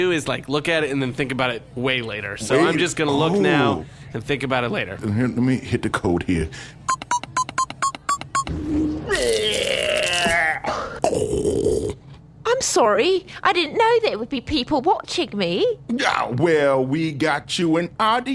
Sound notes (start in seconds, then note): 7.0 beeping sounds, a door opens; 12.5 vomiting